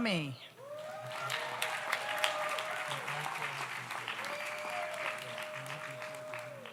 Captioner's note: audience cheers; audience applauds